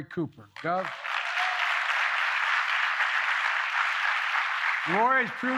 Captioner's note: applause